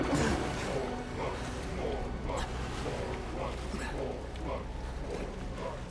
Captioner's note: chanting